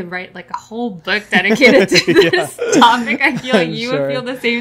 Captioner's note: laughs